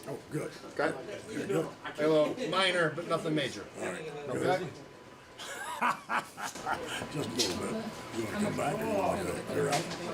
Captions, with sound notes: Oh good. Minor, but nothing major. All right, good. (laughs) I'm about to go get up there.